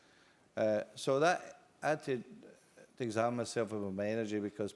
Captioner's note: none